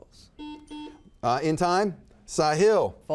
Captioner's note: buzzer buzzes